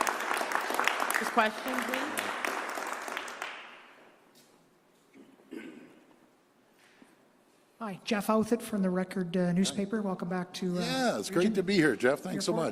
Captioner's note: applause